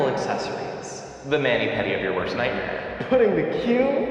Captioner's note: heavy reverb